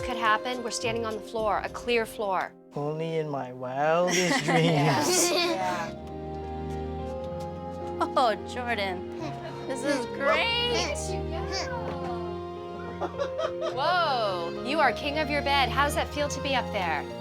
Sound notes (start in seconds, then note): 4.0 laughter; 9.2 laughs